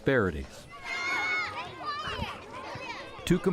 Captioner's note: noise of kids playing on playgrounds